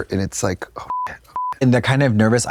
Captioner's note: beep